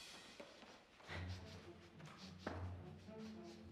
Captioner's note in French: reniflement